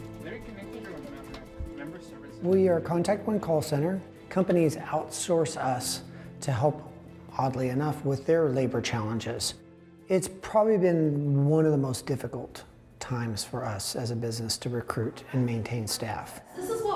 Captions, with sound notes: (call center chatter) - We are Contact One Call Center. Companies outsource us to help, oddly enough, with their labor challenges. It's probably been one of the most difficult times for us as a business to recruit and maintain staff.